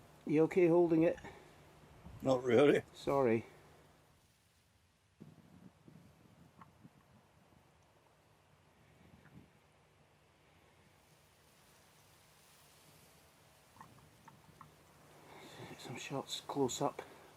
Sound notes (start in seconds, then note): 11.5 leaves rustling